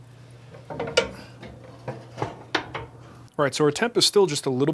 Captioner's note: door shuts